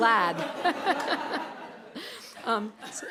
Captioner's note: laughter